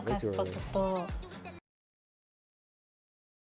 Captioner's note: non-english speech